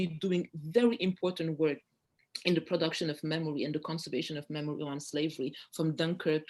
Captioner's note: french